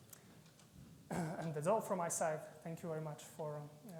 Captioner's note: clears throat